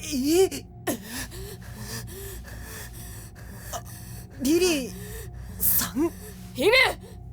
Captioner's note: huff; pant